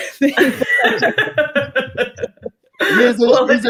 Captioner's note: laughing